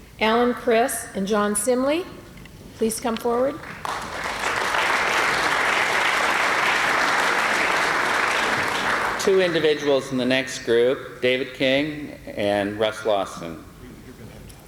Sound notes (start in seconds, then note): 5.3 applause